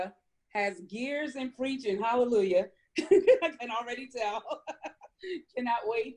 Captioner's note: laughs